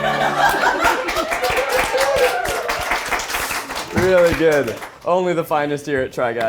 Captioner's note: all laughing; all applauding